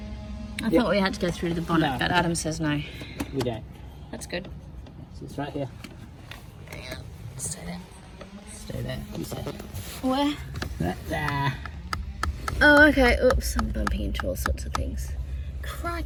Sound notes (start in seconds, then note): 7.7 power tool is powery; 11.2 taps rhythmically on fuse box